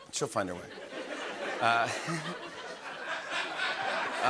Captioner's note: laughter